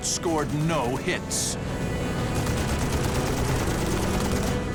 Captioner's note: gunfire